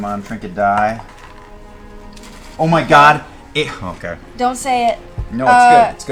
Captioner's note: none